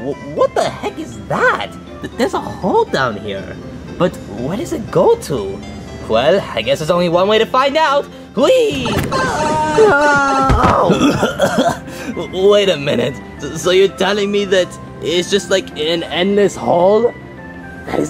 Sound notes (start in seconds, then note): 8.3 electronic game music; 8.9 coughing; 10.1 body thuds